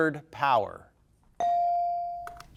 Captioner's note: bell dinging